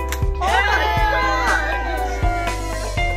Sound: cheering

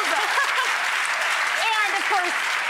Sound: audience applause

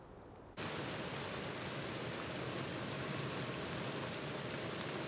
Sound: rain falling

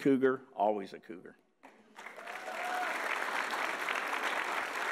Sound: audience applauds

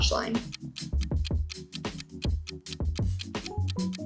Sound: clock ticking

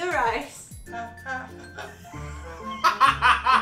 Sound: humming; laughing

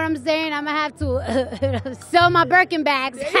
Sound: coughs

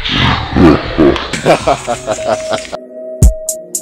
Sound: both laughing

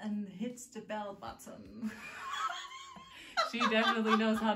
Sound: dying of laughter

